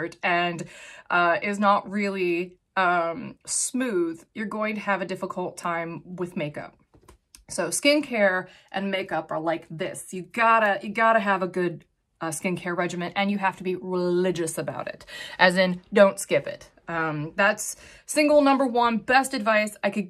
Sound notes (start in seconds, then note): none